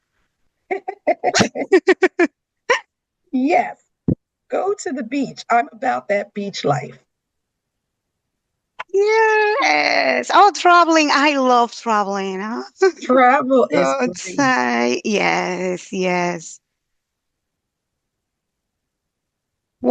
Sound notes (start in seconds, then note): 0.8 all laughing